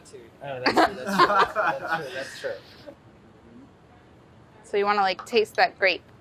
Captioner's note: laugh